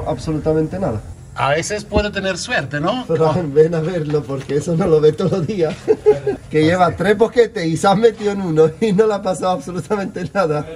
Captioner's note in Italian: risate